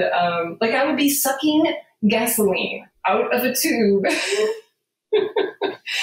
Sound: laughing

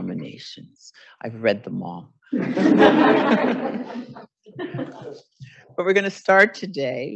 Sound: audience laughing

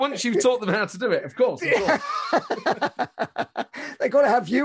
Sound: laughing

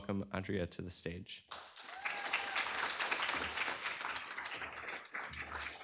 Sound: applause

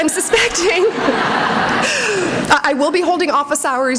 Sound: laughter

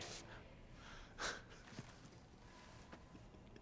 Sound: crying

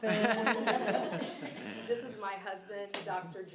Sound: audience laughing

